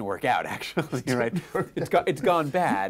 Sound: laughing

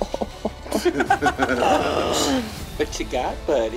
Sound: laughing

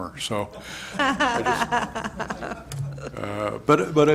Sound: laughter

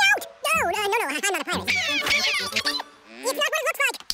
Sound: speaking fast forward

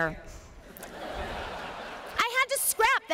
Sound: laughter

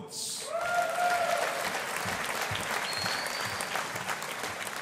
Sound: audience applauding

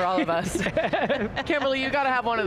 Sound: panelists laughing

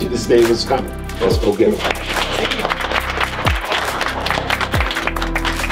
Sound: clapping

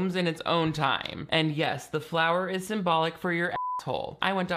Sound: beep

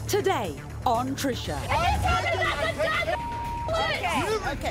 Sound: guests yelling

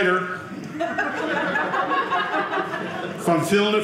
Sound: audience laughing

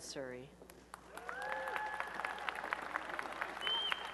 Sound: applause and cheering

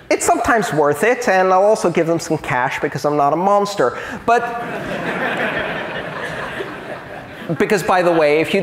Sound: laughter

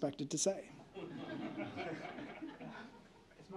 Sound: laughter

